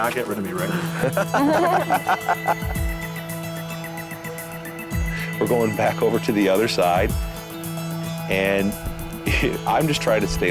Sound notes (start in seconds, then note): 0.6 lalaugughthterer